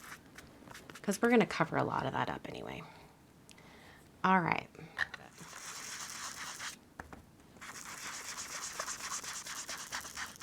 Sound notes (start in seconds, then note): 5.5 blending tool scrubbing